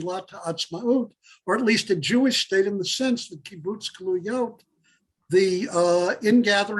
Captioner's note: Hebrew; Hebrew